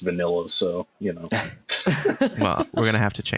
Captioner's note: laughter